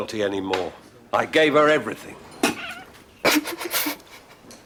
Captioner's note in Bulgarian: Смее се